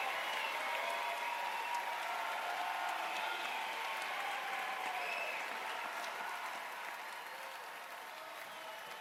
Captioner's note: cheers and applause